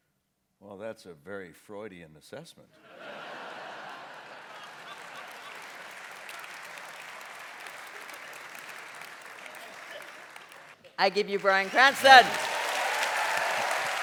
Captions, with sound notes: Well, that's a very Freudian assessment. (AUDIENCE LAUGHS) (APPLAUSE) I give you Bryan Cranston! (APPLAUSE)